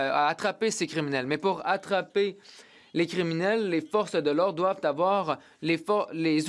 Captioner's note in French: voix de l'interprète